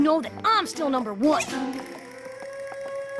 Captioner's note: poink!